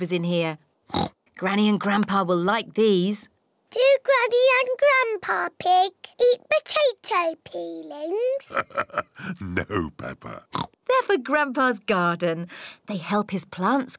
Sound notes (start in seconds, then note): 8.4 chuckles; 10.5 oinks